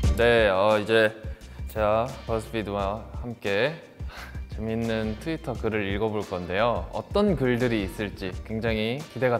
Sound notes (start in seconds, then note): 0.2 speaks Korean; 4.1 chuckles; 5.0 speaks Korean